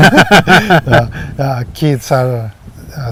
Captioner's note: laughing